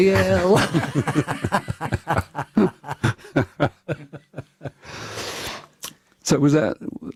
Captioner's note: laughter